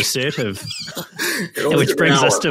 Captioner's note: laughter